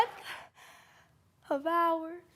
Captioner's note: heavy breathing